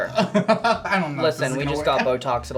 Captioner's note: laughs